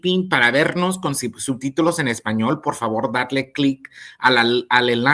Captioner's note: speaks in Spanish